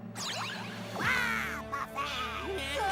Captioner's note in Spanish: emocionado